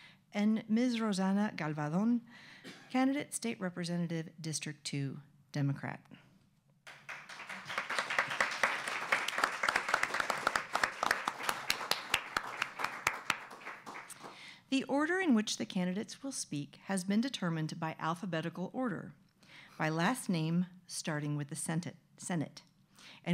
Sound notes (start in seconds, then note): 6.9 audience applause